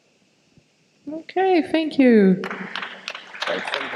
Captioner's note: audience applause